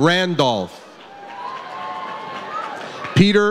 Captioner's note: audience cheers